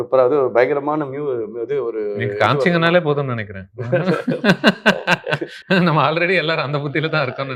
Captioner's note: laughs